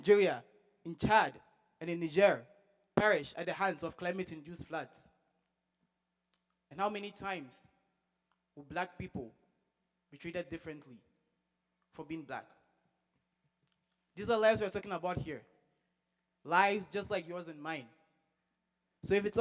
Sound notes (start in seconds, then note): none